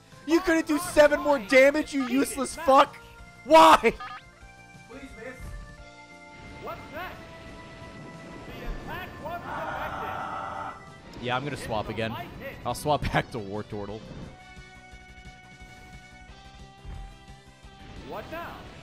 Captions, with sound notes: You couldn't do seven more damage, you useless fuck? Why? Please miss. (screams) Yeah, I'm gonna swap again. I'll swap back to Wartortle.